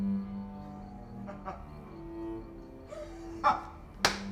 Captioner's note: laughs